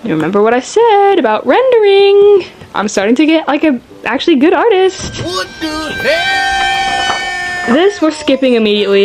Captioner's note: scary sounds